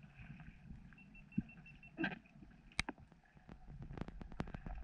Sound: beeping

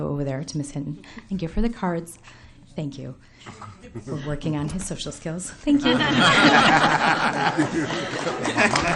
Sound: laughter

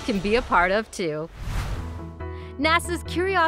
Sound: whooshing

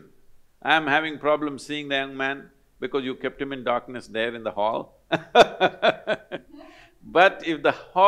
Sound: laughs

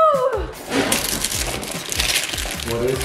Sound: paper rustling

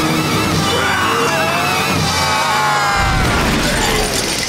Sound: screaming

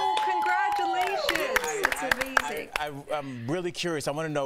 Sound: applause

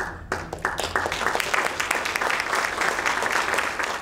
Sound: applause

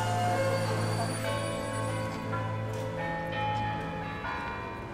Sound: bells ringing

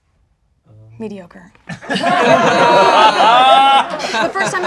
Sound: laughing

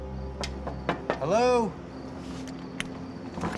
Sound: knocking

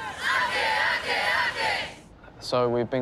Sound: chanting in unison

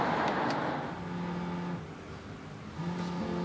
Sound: phone vibrates on the table... ringing

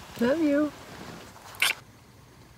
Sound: kiss sound

